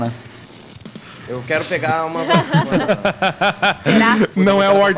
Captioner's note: laughs